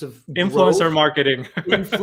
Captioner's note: chuckles